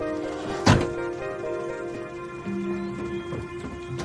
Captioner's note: car door clangs